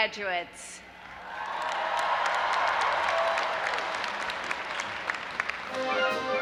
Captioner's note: audience applauding and cheering; upbeat marching band music